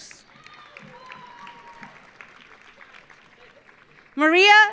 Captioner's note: audience applauding; audience cheering